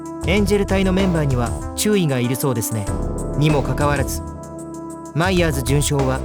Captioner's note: none